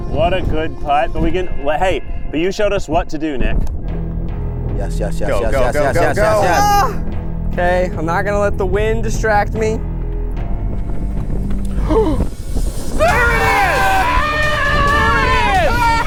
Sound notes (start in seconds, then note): 13.0 group cheers